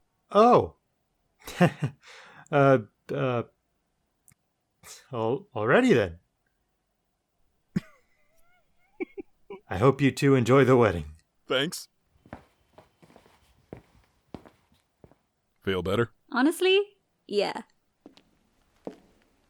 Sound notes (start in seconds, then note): 7.7 giggles